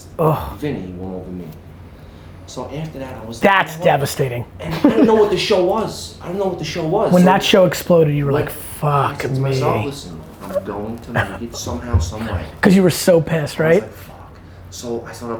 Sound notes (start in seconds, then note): 4.6 laughing